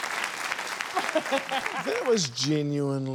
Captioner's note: laughs